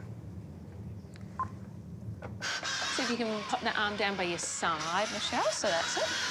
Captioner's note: beep! rex whirrs